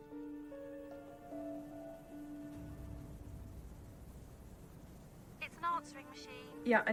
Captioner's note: eerie music playing; wind howling